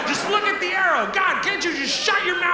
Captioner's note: audience laughs